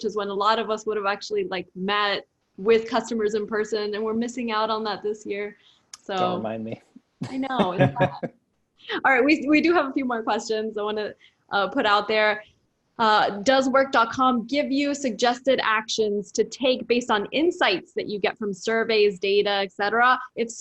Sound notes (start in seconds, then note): 7.3 laugh